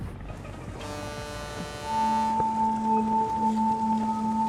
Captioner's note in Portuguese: Buzina de navio